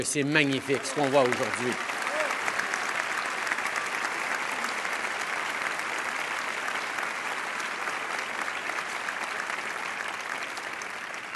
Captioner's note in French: Applaudissements